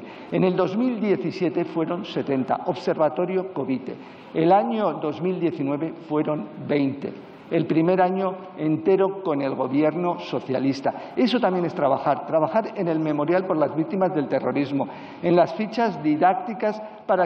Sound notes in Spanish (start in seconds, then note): none